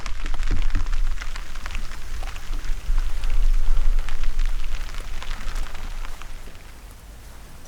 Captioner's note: rain